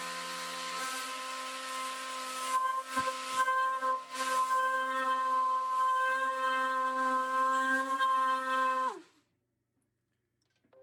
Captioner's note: machine whirring